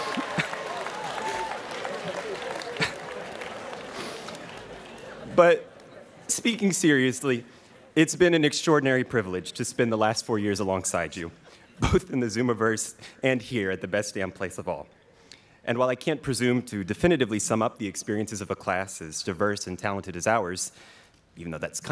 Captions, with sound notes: (students cheering) But speaking seriously, it's been an extraordinary privilege to spend the last four years alongside you both in the Zoomaverse and here at the best damn place of all. And while I can't presume to definitively sum up the experiences of a class as diverse and talented as ours,